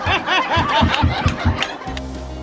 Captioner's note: clapping hands; audience laughing